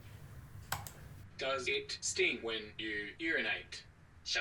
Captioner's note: computer Voice; computer voice speaks in Mandarin